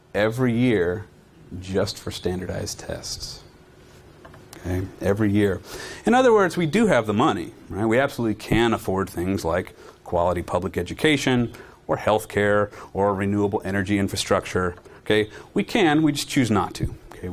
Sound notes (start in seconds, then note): none